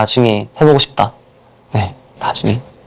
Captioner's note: whisper